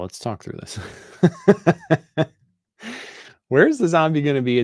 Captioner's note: laughter